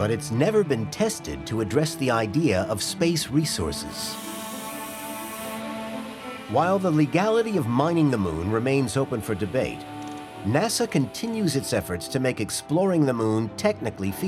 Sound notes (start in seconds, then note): 3.8 drilling